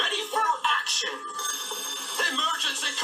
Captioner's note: alarm rings